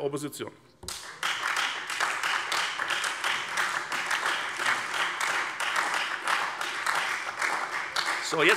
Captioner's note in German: Beifall Freie Demokraten, SPD und DIE LINKE